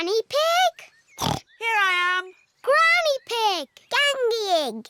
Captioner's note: snorts